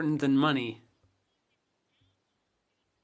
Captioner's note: speaking French